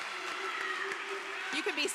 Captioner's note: applause